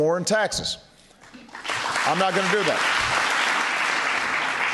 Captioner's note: applause